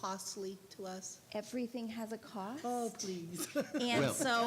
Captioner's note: laughing